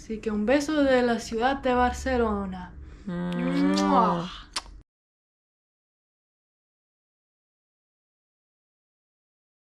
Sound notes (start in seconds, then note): 3.2 kisses